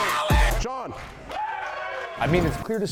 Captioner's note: cheering